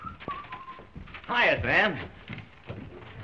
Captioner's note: whistling